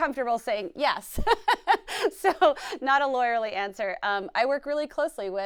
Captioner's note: laughs